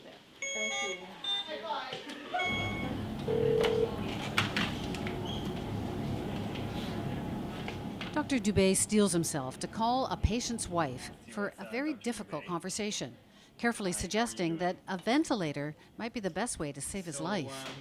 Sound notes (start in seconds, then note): 0.1 machines beeping; 2.4 phone rings